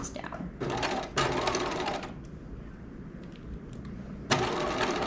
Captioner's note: sewing machine whirling